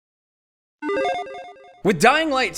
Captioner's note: logo beeping